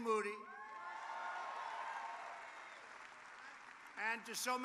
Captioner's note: applause